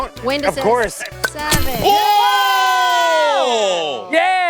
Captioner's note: all cheering